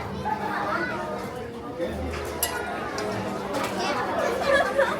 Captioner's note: crowd murmuring